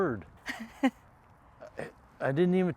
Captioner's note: Pamela chuckles